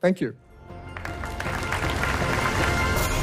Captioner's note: applause